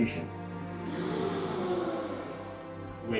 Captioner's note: audible gasps